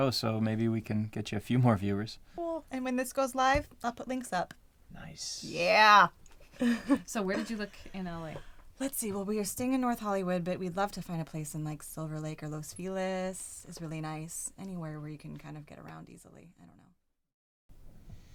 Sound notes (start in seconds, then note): 6.6 laughing